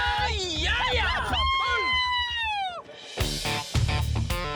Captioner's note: all cheering